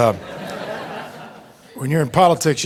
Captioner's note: audience laughing